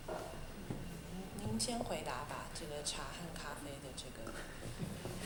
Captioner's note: Mandarin